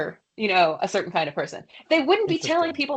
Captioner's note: laughs